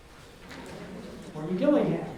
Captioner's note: audience mumbles